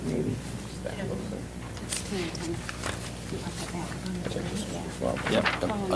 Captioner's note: indistinct chatter